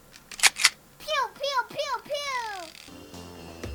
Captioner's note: gun cocking sound